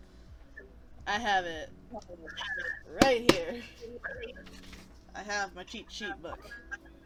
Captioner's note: slap slap